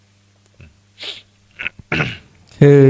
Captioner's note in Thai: เสียงสูดหายใจ